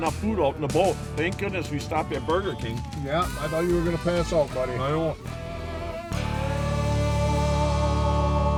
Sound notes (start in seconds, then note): 3.3 voiceover